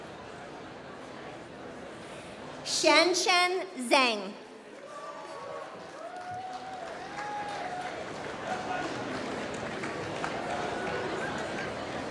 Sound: applause

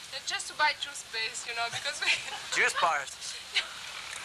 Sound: heavy french accent

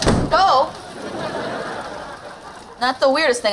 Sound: laughing

